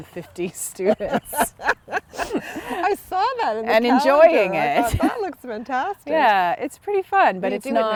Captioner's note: laughter